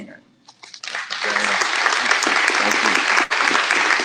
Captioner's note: applause